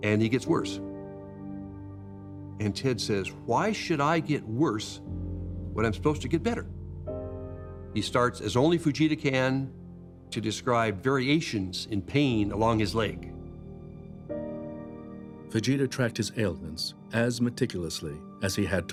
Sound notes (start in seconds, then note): none